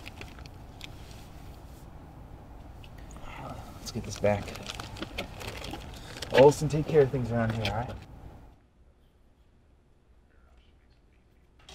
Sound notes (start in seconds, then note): 10.6 typing